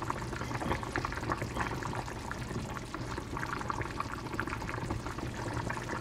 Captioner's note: boiling